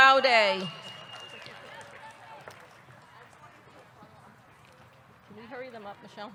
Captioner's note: audience whistles; audience clapping